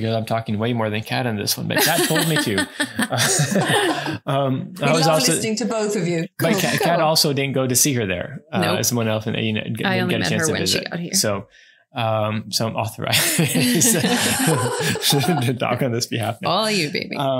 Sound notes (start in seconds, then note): 4.7 laughs; 15.9 laughs